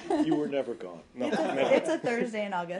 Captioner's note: laughter